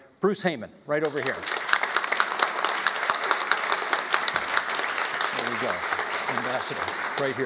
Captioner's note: applauding